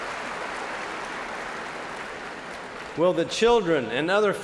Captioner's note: cheers and applause